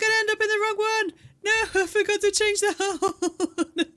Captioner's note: laughing